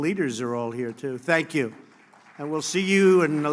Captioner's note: applause